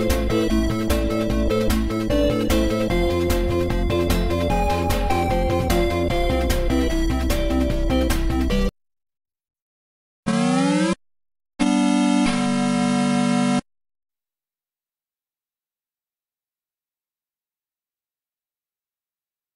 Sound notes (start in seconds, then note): 10.3 8-bit console startup music; 15.9 silence